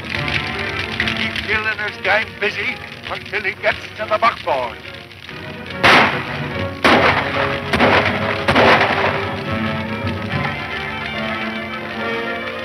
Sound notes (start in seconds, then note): 0.3 dramatic music; 5.7 shots fire; 9.7 dramatic music